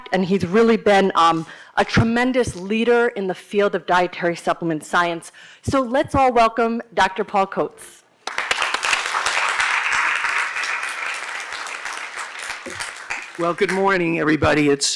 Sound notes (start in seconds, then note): 8.2 applause